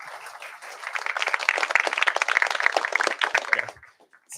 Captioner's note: applause